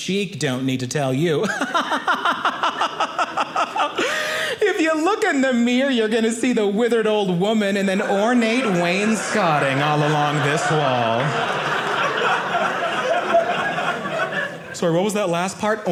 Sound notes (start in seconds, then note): 1.4 audience laughing; 11.2 audience laughing